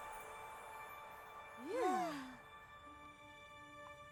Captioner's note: all sigh